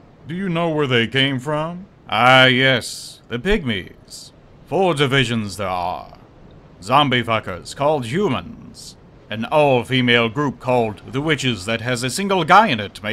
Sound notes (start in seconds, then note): none